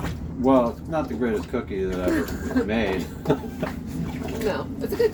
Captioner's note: laughs